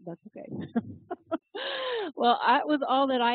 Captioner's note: laugh